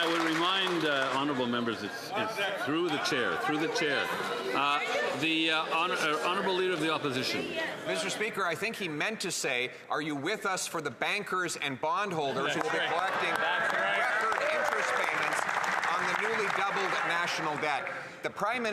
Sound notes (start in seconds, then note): 0.0 some Applause